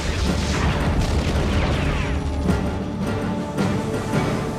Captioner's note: explosion booming; electricity buzzing; upbeat music